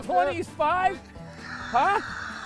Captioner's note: yelling; laughing